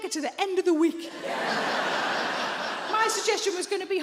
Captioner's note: audience laughing